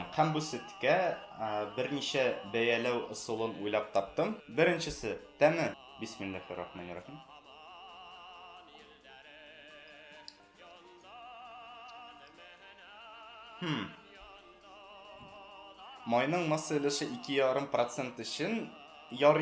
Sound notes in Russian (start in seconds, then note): 13.6 татарское Хмм